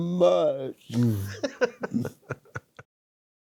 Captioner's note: laughing